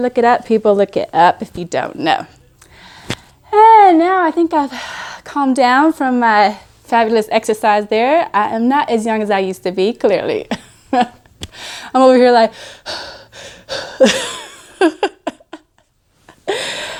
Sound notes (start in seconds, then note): 14.0 laughs; 16.3 breathes heavy